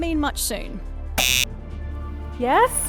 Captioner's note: buzzer